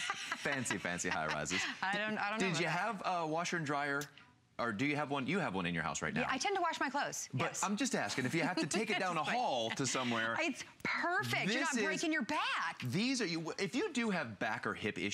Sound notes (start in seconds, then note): 8.1 laughter